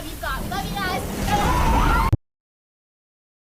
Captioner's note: ship shuddering; sound of ship breaking; screaming